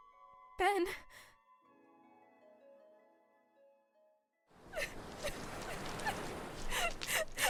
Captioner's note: sobbing